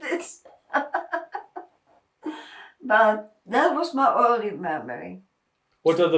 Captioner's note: laughing